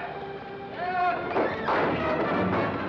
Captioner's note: suspenseful music; door bangs open